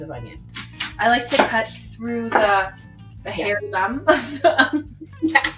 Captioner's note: laughs